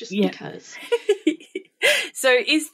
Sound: laughing

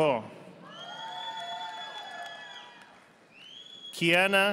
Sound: audience applauding

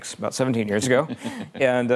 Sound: laughing

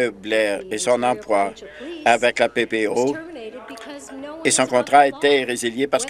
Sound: some Applause

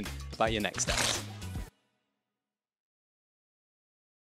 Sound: text crunches

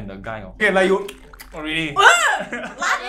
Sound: slurps sound

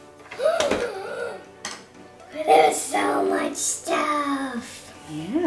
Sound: gasping

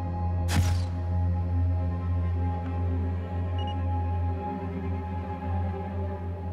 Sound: suspenseful music continues; suspenseful music; camera flashing

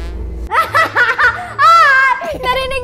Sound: chuckles

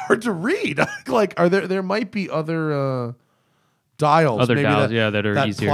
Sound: laughter

